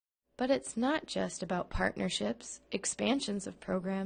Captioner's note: voiceover